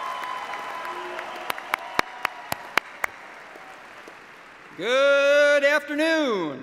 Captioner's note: applause